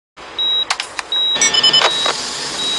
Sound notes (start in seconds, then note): 0.0 keyboard clicks; 1.1 heart monitor beeping continously